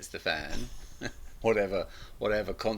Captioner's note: both laugh